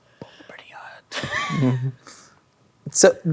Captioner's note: chuckle